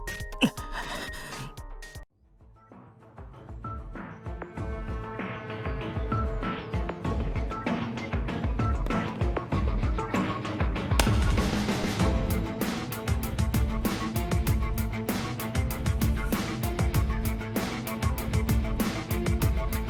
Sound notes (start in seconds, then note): 10.9 slap